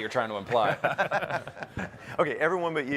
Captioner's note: men laughing